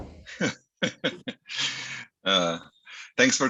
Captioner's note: laughter